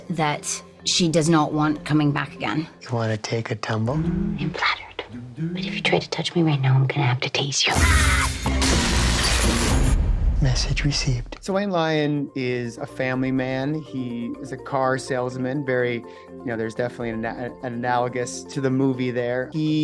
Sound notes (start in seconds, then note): 8.4 electricity fizzling; 8.6 glass smashing